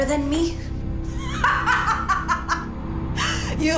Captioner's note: laughing